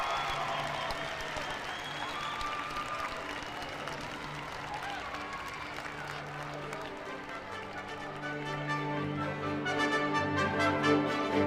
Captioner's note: cheers; applause